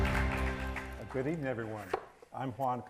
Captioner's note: audience applauds